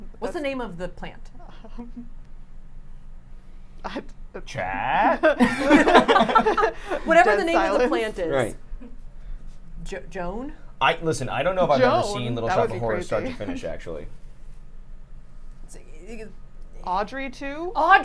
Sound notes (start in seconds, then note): 4.9 everyone laughs